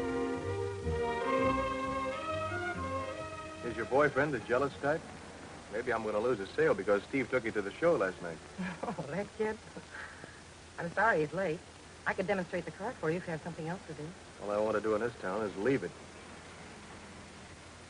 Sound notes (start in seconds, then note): 8.6 laughs